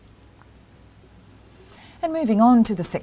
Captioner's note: pause